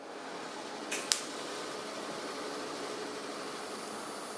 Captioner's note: whirring, hissing